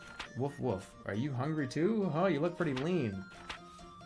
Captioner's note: none